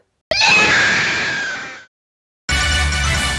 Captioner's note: screams while fading out of existence